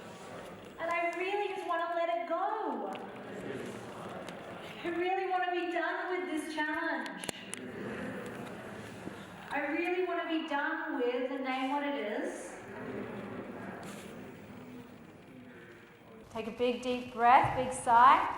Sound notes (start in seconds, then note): 11.5 group murmurs